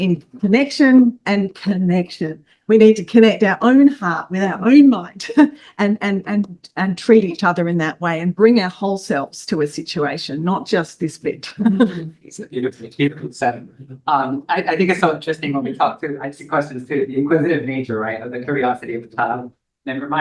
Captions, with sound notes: in connection and connection, we need to connect our own heart with our own mind and treat each other in that way and bring our whole selves to a situation, not just this bit. (laughs) - I think it's so interesting when we talk, too. I see questions, too. The inquisitive nature, right, of the curiosity of the child.